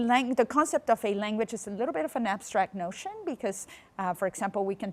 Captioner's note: none